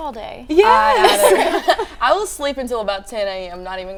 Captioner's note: laughing